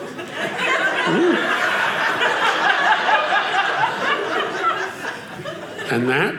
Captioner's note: audience cheering